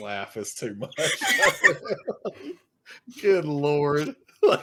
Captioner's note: laughing